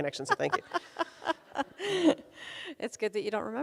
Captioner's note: laughs